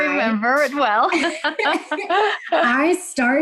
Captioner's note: chuckles